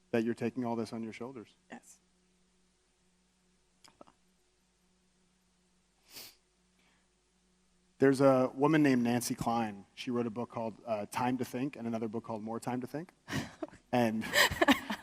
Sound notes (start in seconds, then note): 7.0 sniffs; 14.2 laughs